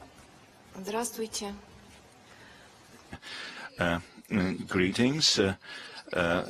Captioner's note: speaks in a foreign language